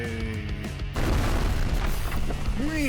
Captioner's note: explosion